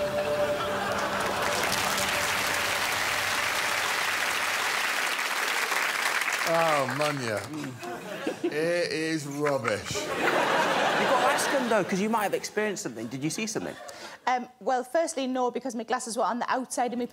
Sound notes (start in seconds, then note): 2.4 applause